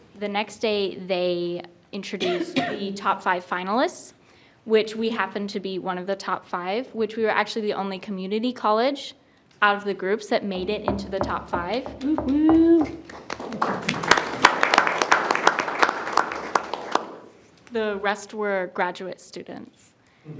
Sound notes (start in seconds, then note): 14.0 group applauding